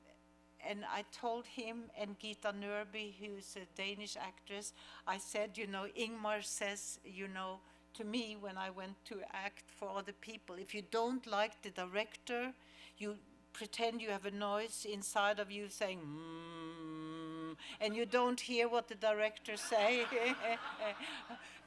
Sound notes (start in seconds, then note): 16.0 humming